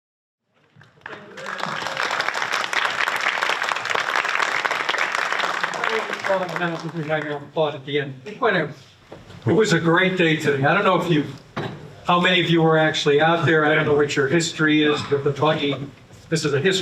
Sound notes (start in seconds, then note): 6.5 applause